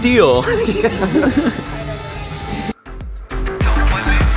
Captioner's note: laughing; upbeat music